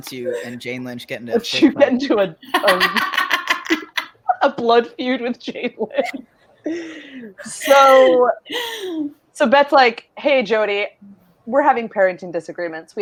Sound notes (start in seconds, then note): 6.5 laughs